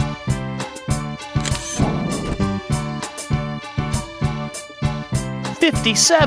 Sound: SFX: Camera Shutter

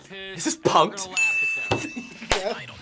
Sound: laughs

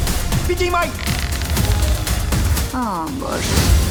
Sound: upbeat music plays; creaking

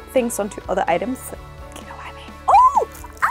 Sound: whisper

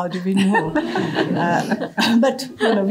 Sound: laughter

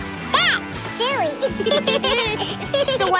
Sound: laughing

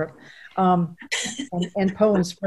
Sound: laughing

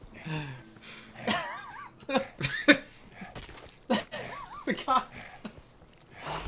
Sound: exhausted krieg noises

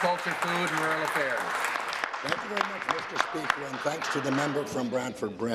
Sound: applause

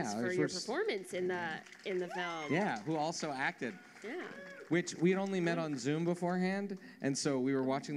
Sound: applause

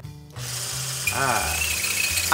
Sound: whisk whirring

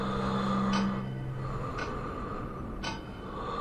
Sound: breathing

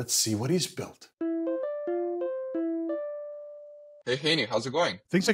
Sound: cell phone ringing

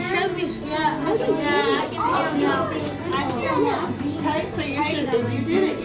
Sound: students discussing and talking

